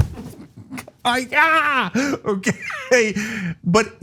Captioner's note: laugh